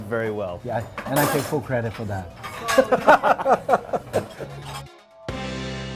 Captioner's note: laughs; guitar chord